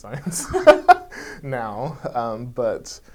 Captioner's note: laughing